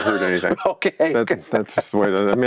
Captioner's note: chuckles